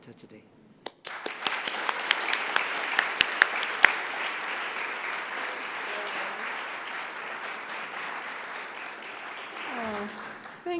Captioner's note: applause